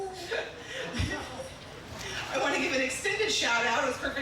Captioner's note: chuckling